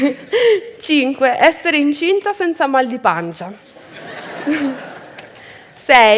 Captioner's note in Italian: Risate